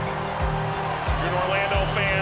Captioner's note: crowd clapping and cheering